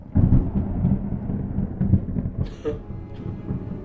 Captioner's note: thunder rumbling; Danielle coughing